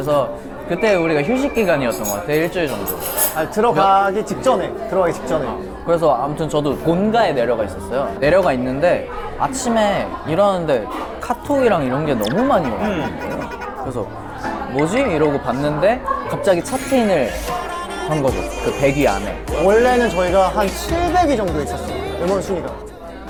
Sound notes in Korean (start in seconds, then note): 12.2 카톡